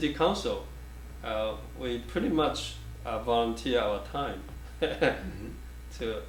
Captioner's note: chuckles